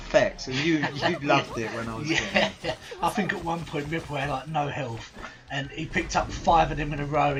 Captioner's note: laughs